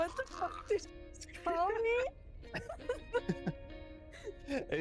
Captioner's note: laughs